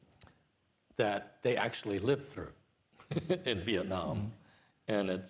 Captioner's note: chuckles